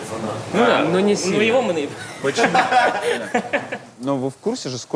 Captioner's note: all laugh